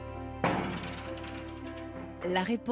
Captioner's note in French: Impact